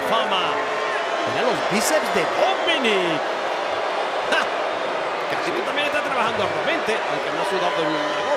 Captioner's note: laugh